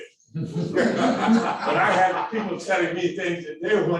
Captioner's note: audience laughing